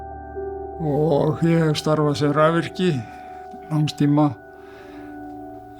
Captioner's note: speaker speaks foreign language